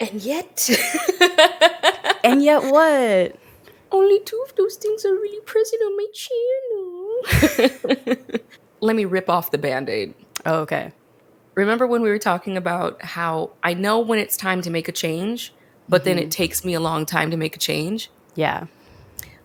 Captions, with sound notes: - And yet (laughs). - And yet what? - Only two of those things are really present on my channel. (both laugh) Let me rip off the bandaid. - Okay. - Remember when we were talking about how I know when it's time to make a change, but then it takes me a long time to make a change? - Yeah.